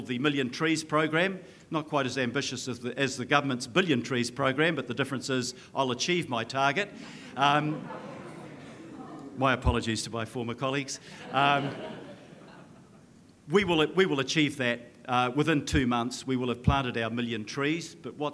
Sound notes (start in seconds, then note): 7.2 audience laughing and chattering; 11.0 audience laughing